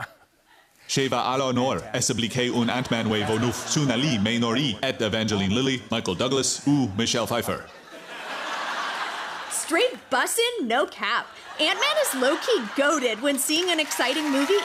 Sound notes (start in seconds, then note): 2.5 laughter; 7.5 laughter; 11.3 laughter and applause